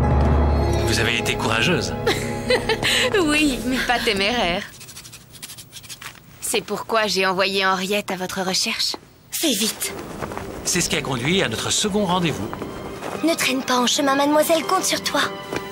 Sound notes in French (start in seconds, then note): 2.1 rire